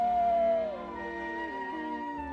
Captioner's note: howling